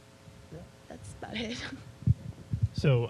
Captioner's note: chuckling